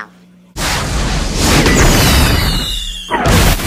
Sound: rocket launches; explodes

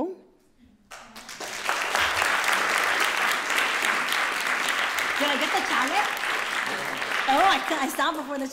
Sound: applause

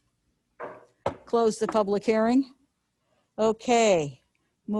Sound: knocking

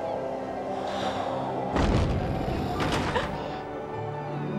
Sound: gasping

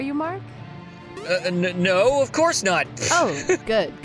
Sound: fake confident laugh

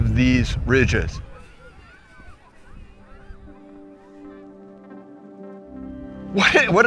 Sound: children playing, shouting

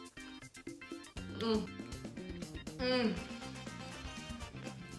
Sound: groans

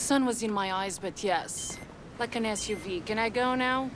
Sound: cell phone rings

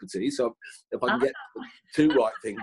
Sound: laughing

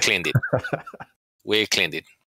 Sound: laughter

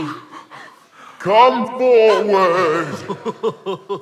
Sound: echoey Oz voice; scared whimpering

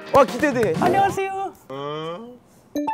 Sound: granny voice

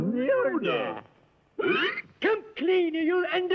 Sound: hiccup

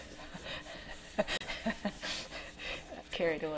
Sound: chuckling

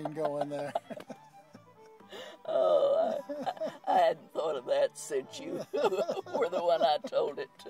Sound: chuckles

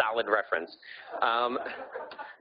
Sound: audience laughing

